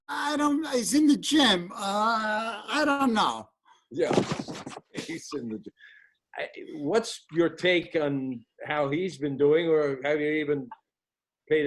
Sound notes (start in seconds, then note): 4.7 laughter